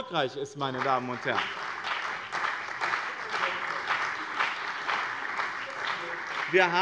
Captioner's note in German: Beifall bei dem BÜNDNIS 90/DIE GRÜNEN und der CDU